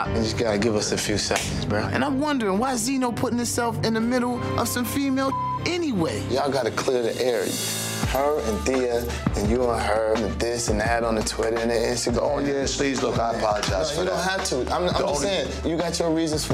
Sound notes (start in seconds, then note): 5.2 beep